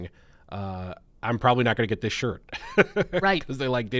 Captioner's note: laughs